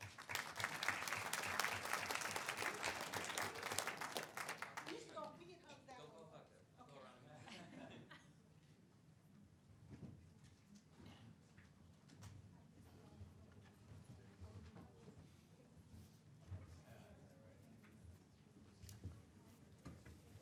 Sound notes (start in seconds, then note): 0.0 attendees clapping; 7.4 attendees laughing